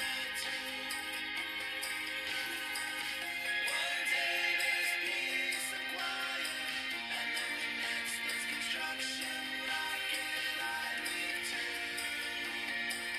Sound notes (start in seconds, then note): 1.1 bell ringing